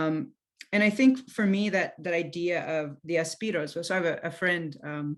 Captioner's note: non-english speech